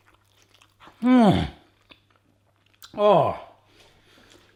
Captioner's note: groans